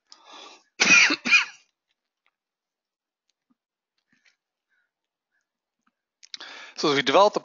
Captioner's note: cough